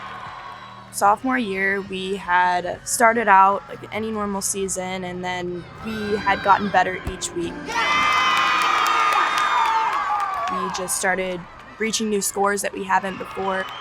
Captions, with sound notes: Sophomore year we had started out like any normal season. And then we had gotten better each week. (team cheers) We just started reaching new scores that we haven't before.